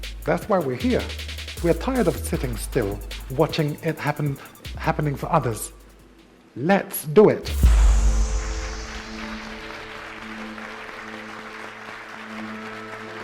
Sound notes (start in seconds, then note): 9.1 audience applauds